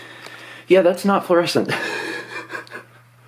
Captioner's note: laughs